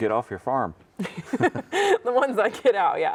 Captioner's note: laughs